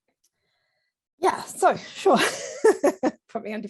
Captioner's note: laughs